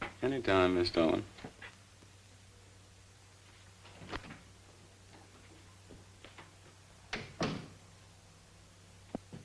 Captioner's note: door opens